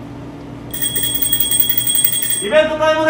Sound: ring x 3

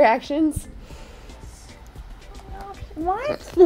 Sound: whispering

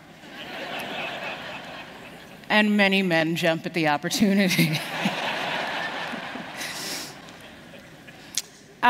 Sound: laughter; laughter

